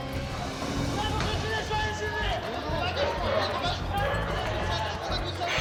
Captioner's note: speaking in foreign language